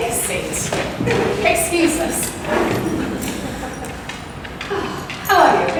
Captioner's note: audience chuckles